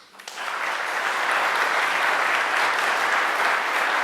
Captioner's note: applause